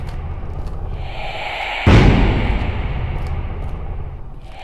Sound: loud breathing and banging

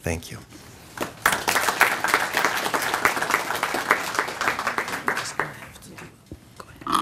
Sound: applause

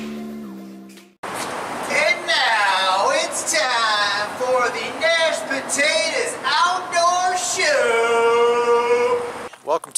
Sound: yelling from tunnel

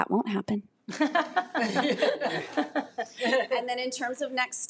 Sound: audience laughing

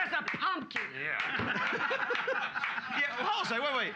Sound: loudly laughing

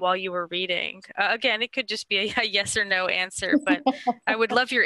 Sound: background laughter

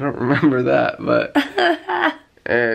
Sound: chuckling

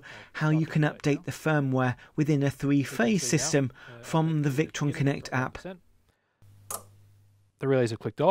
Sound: click

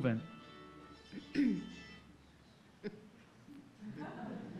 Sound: mobile ringing

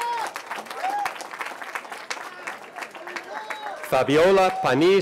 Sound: cheering

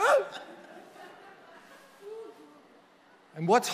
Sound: congregation laughing

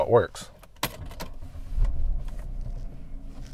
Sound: keys clicking and car starting

